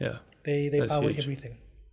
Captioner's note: laugh